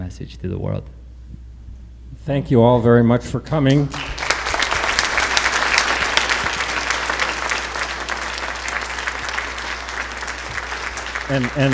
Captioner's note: applause